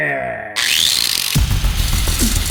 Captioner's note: grinder fires up; intense hardcore music